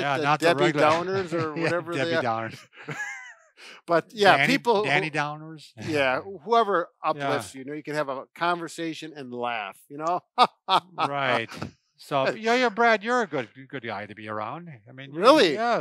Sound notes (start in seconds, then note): 10.0 exaggerated laughing